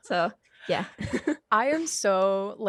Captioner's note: laughs